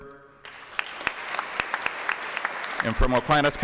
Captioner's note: applause